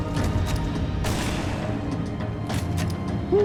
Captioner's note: gunshot